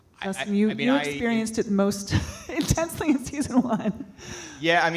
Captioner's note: laughs